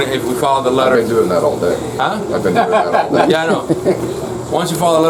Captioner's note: laugh